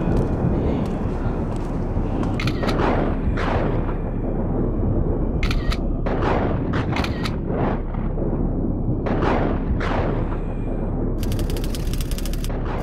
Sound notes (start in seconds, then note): 2.6 camera snapping; 6.3 thunder rumbling and lightning cracking